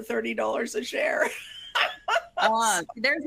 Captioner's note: laughing